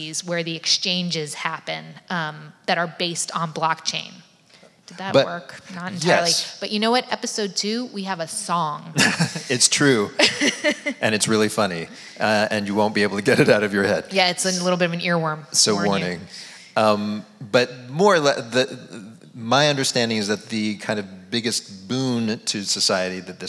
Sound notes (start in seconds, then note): 8.9 laughs